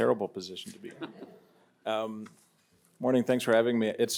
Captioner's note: everyone laughs